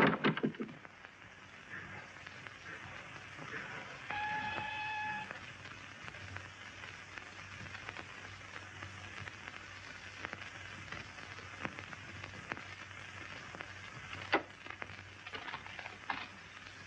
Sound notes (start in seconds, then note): 0.5 whistle blows